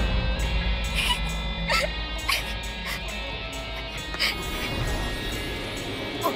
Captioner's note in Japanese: ラミエルの泣き声